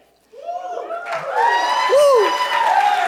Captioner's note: cheers and applause